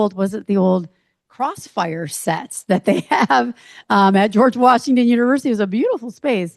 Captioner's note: chuckles